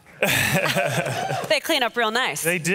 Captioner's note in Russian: посмеивается